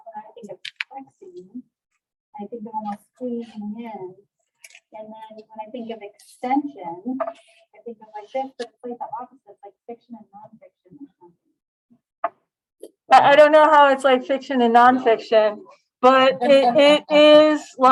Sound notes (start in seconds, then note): 16.4 laughter